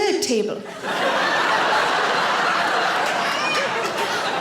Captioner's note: audience laughing